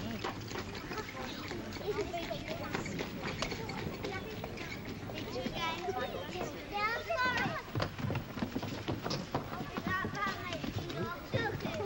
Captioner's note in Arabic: ضربات الحوافر; صوت اصوات الاطفال